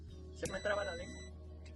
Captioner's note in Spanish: sonido: piiiiii